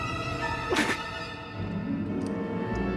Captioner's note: terisak